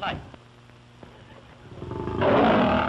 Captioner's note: roaring